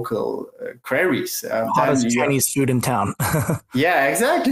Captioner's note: laughs